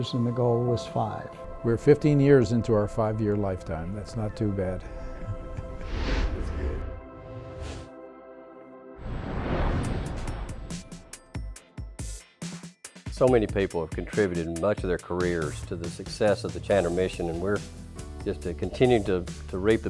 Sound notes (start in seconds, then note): 7.8 laughs